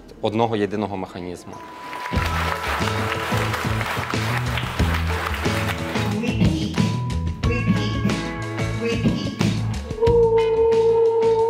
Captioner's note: applaud